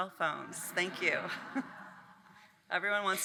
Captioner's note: audience laughing